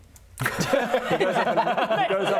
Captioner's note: devoted father laughter